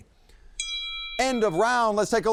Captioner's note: bell rings